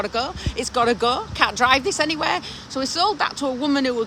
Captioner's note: laughing